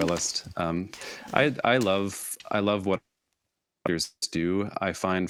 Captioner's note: audio warps